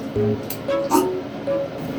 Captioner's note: gag